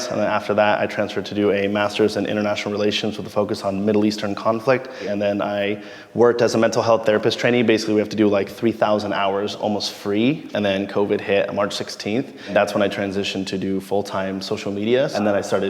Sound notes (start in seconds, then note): none